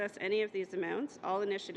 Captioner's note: speaking French